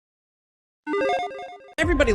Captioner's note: logo dinging